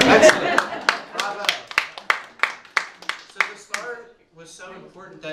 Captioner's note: clapping